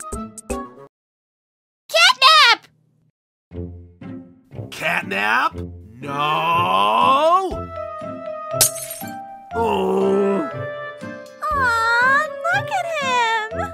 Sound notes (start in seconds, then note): 9.6 groans